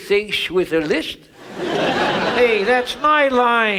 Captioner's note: audience laughs